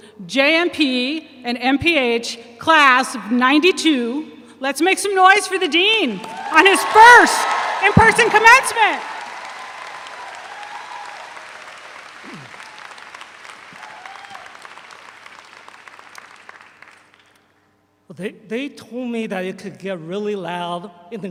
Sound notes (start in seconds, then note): 9.6 all applaud; 12.2 clears throat